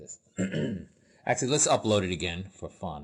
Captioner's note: cough